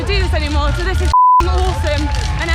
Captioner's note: beep